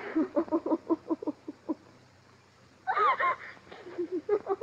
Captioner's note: sobbing